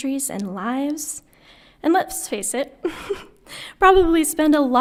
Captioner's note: chuckles